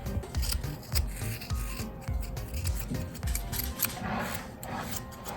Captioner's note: the sound of scissors struggling